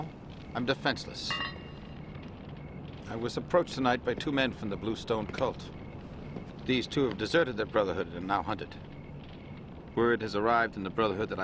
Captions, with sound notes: And now, I'm defenseless. (metal clang) I was approached tonight by two men from the Blue Stone Cult. (footsteps) These two have deserted their brotherhood and are now hunted. Word has arrived in the brotherhood